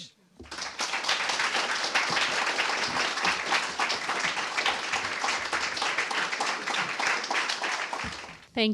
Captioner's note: applause